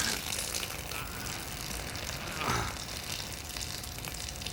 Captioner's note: Errol grunts